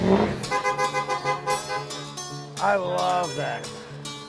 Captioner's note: car engine roaring; car horn